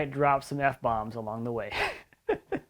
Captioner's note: laughs